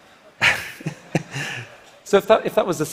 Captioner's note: laughter